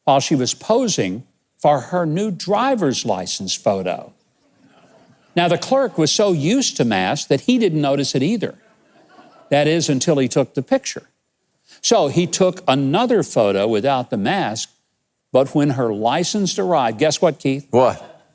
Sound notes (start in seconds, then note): 4.4 audience chuckles quietly